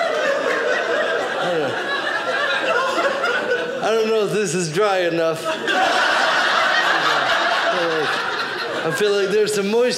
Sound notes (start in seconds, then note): 0.0 audience laughing; 5.3 audience laughing